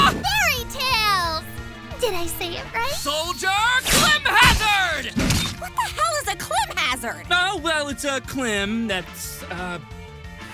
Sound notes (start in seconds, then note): 3.7 slashing Sounds